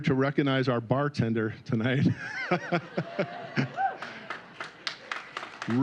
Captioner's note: applause